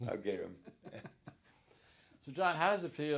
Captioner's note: both chuckling